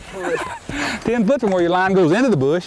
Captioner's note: laughter